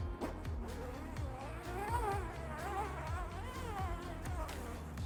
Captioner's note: zipper sliding